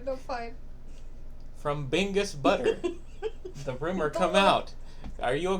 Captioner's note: laughing again